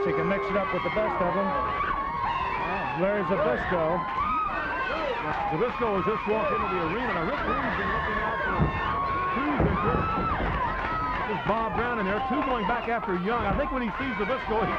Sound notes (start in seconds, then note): 4.6 crowd clamoring; 7.5 blows thudding